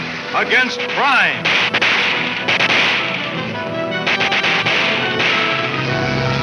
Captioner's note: dramatic orchestra music; guns firing